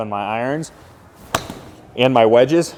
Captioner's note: ball smacking